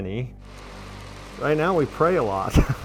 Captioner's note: fire crackles